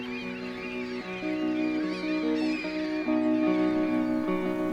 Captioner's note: seagulls squawking; gentle music